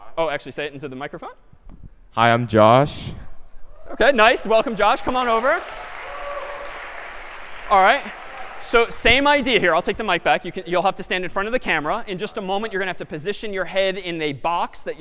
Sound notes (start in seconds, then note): 4.7 applause